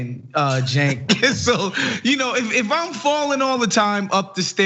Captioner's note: laugh